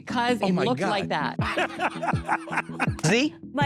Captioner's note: laughing